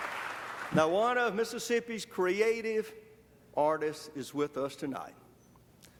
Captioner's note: applause